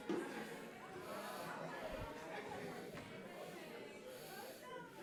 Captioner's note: attendees chattering